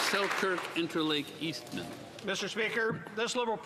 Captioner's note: applause